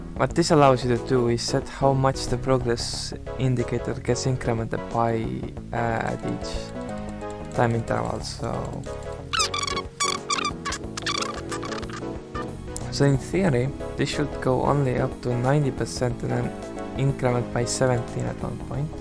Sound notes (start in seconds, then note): 9.3 squeak, squeak